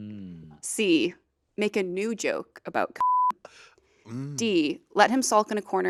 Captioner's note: beep